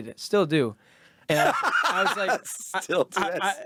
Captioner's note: laughing